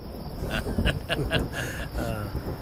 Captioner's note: Laughs